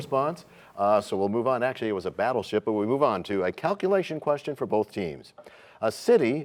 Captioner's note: none